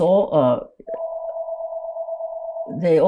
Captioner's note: phone ringing